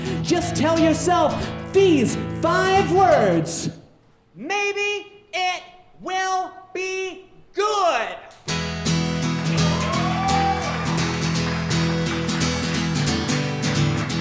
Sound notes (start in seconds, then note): 8.4 guitar strumming; 9.3 audience cheering